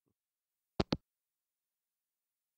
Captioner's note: hangup